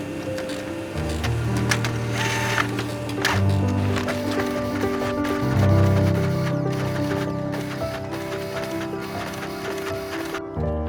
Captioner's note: xerox machine printing